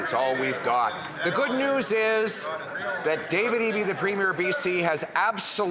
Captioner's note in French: voix de l'interprète